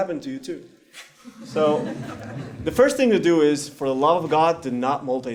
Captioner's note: laugh